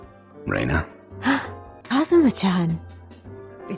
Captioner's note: gasp